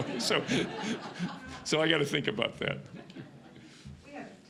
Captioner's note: audience laughing